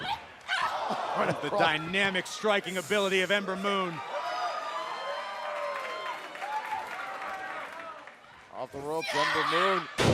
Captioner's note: crowd cheering